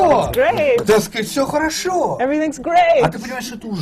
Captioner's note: foreign language not transcribed